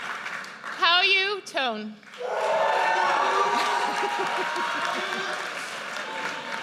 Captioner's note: audience cheers